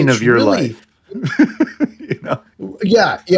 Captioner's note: laughing